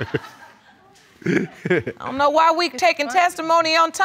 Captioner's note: all chuckling; chuckling